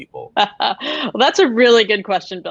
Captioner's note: laughing